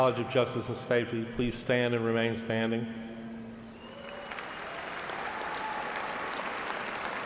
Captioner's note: applause